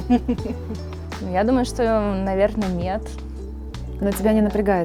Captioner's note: laughing